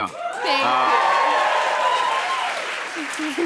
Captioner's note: cheers and applause